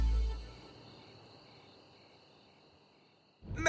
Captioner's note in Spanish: Grillos